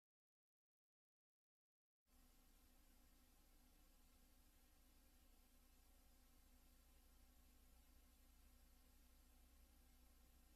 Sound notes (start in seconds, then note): 2.1 quiet VHS static